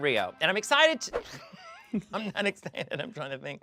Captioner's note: laughing